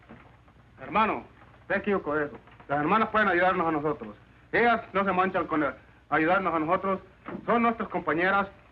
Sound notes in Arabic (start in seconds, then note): 0.7 رجل يتحدث الإسبانية